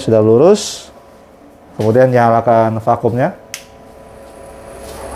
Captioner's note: button noise; printer machine noise